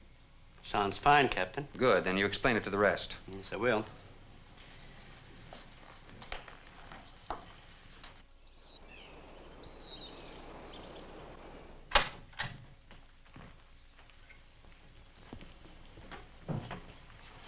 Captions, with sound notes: - Sounds fine, Captain. - Good, then you explain it to the rest. - Yes, I will. (birds chirp)